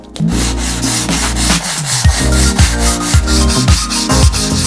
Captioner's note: plane scraping